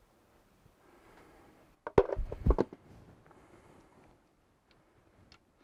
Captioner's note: object clattering